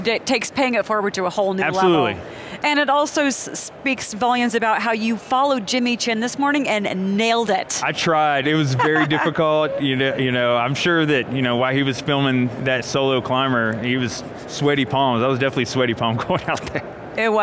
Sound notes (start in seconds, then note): 8.6 laughs; 14.1 rubs hands; 16.3 laughs